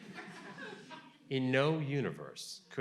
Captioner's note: audience laughing